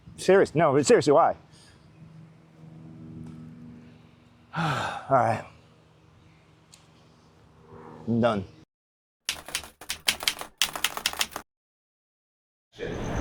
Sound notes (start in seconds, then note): 4.5 sighs; 9.3 keyboard keys clicking